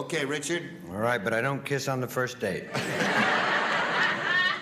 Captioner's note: laughter